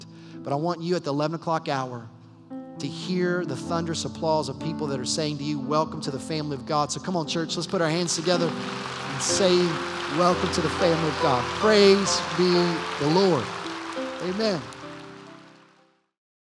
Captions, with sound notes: But I want you, at the 11 o'clock hour to hear the thunderous applause of people that are saying to you, "Welcome to the family of God." So come on, church let's put our hands together in saying, "Welcome to the family of God." (applause) Praise be the LORD. Amen!